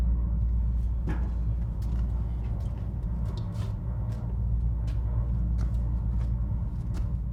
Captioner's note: machine rattling faintly continues